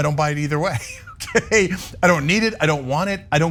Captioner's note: laugh